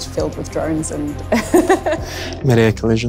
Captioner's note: laughs gently